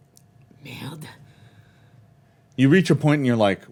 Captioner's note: speaks foreign language